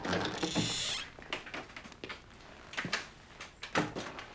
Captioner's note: door creaking